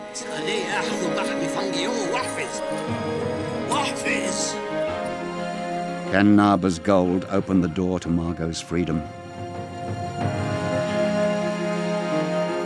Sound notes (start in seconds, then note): 0.3 Naba speaking in foreign language; 2.6 coins jingling; 9.7 dramatic music